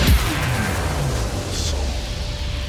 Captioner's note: electricity pulsing